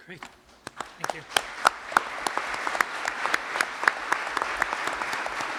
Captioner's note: applause